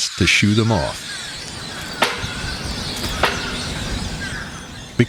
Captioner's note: SFX: Slapping metal mast with halyard